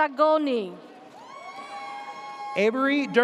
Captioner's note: audience cheers